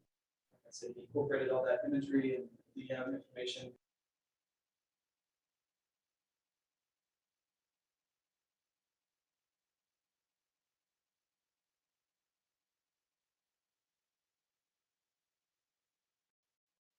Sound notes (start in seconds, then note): 4.3 sound muted--resumes mid sentence